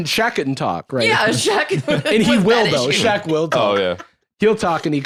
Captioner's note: laughs